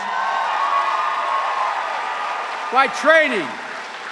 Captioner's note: cheers and applause